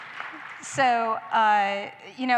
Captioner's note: applause